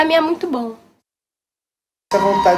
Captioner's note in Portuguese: Silêncio